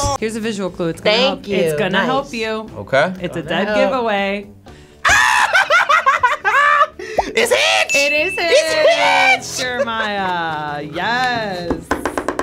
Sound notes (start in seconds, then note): 4.6 laughing; 7.9 bell dinging